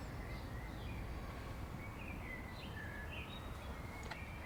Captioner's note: birds singing